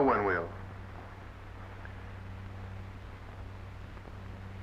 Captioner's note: none